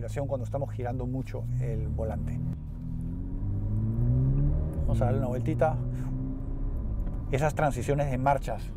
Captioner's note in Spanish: Sonido del motor